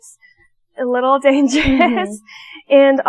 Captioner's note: nervous laugh